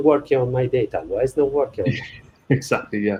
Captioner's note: chuckling